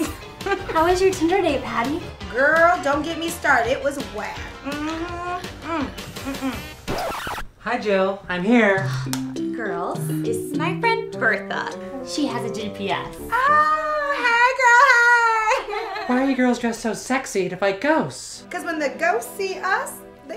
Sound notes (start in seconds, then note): 0.0 Patty chuckles; 6.4 record screeching